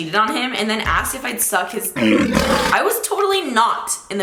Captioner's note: lion roaring